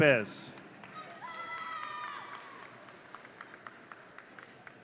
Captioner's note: audience cheering